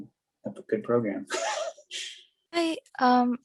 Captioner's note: laughs